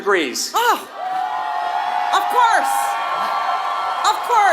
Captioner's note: applause